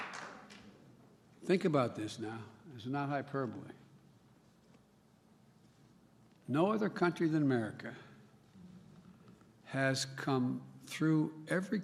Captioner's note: applause